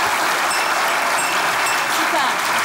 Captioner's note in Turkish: Zil sesi